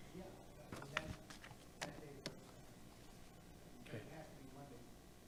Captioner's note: board member faintly speaking